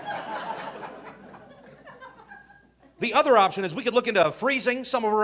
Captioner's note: audience laughing